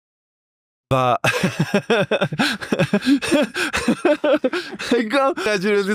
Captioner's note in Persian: خنده